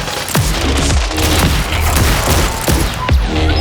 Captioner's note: rifle popping; shotgun blasting; gun blasting